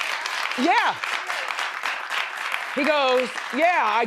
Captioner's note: crowd applauding